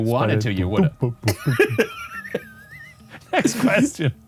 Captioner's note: mimics bass